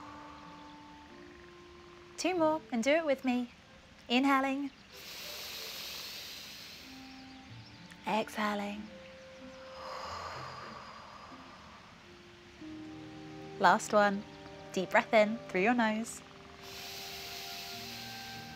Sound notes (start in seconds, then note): 9.6 inhales; 10.2 exhales